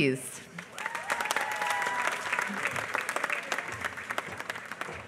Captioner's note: applause